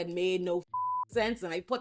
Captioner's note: beep